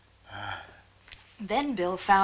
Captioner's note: groaning